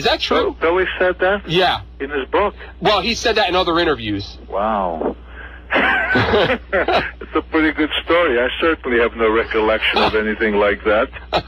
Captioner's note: laughs